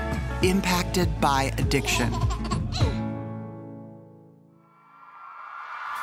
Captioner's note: baby laughing